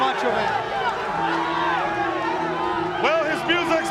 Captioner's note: crowd chatter